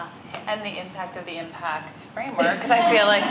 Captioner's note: laughter